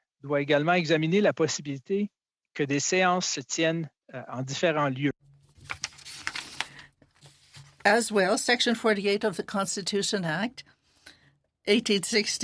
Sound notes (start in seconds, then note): 1.2 speaking French